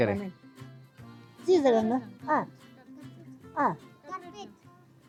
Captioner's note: speaking local language